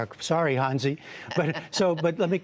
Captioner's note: laughter